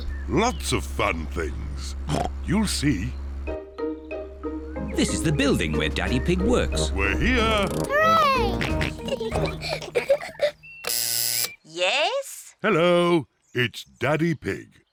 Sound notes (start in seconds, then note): 2.0 oinks; 7.3 george oinks; 7.9 kids giggling; 10.8 buzzer sounds